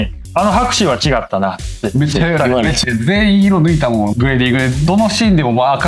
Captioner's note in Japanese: 咳払い